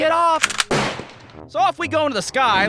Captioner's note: click-clack! BOOM!